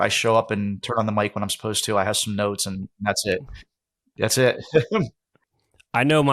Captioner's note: laughs